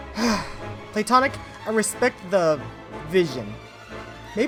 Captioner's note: sighs